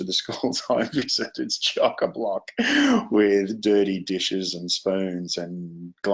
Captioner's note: laughs